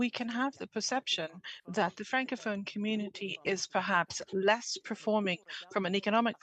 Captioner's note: speaking French